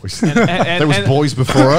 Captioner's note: laughing